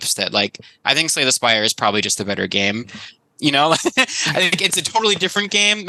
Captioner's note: laughs